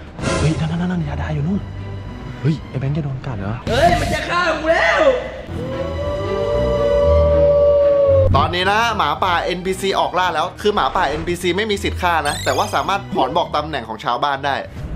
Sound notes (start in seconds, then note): 5.4 tense music plays; 5.5 howling